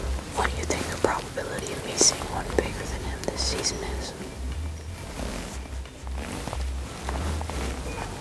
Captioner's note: whispering